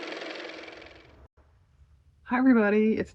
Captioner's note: car motor